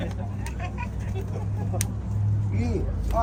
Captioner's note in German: laugh